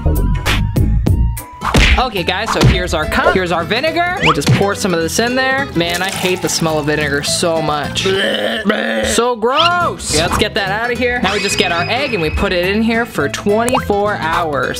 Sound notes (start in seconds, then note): 7.9 gagging